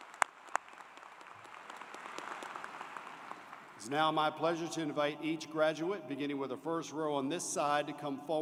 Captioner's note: cheers and Applause